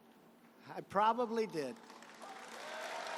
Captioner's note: applause